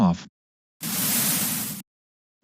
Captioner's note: static noise